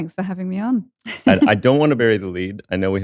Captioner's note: chuckles